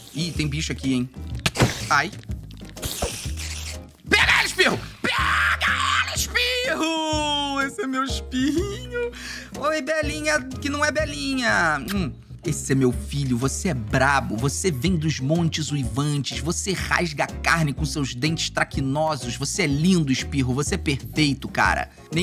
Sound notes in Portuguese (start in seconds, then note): 1.4 som de aranha; 11.8 som de beijo